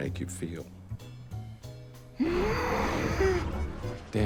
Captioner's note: grunts